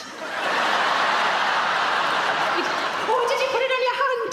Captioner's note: audience laughing